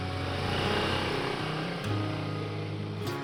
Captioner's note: sound of motorcycle engine